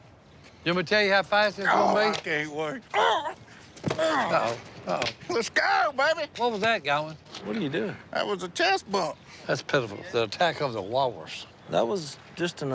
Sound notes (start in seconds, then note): 3.9 grunt